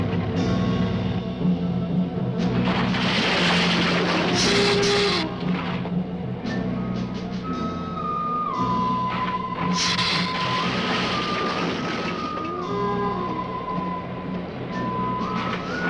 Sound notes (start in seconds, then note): 1.6 bridge rattling; 3.3 lizard hissing; 9.7 lizard hissing